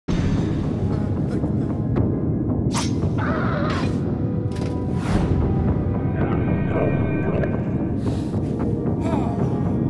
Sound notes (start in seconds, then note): 0.0 ominous music; 0.8 tormented moaning; 2.0 ominous music; 2.5 swoosh; 3.1 aggravated shriek; 3.1 ominous music; 4.9 woom; 5.7 ominous music; 7.6 tormented moaning